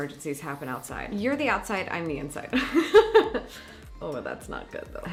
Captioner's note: laughs